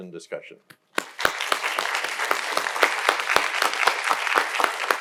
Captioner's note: audience applauding